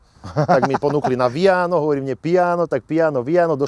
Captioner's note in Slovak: smiech